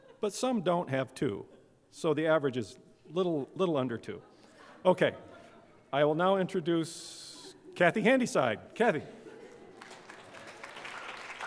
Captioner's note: applause